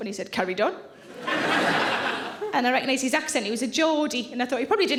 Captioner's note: audience laughing